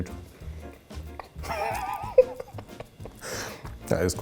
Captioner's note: laughing